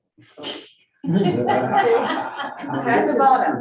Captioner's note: group laughing